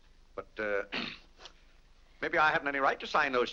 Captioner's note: clears throat